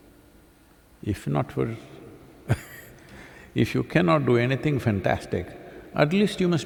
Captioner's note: laughs